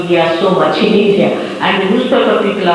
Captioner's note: laughs